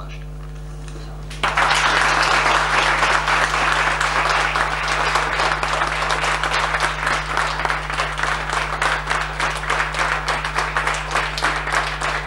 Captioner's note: applause